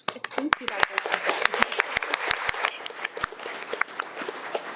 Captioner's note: audience clapping